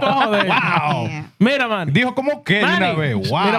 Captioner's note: speaking In Foreign Language